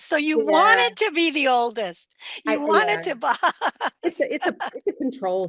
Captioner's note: laughs